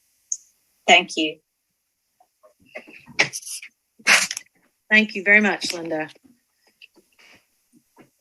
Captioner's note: moment of silence